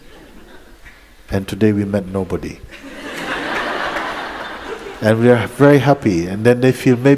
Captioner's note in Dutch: gelach